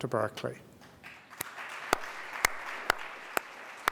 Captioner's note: clapping